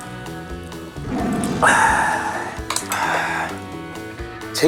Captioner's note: alpha Male Exclamation